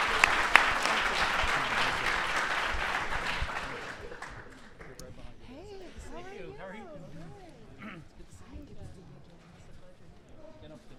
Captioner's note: applause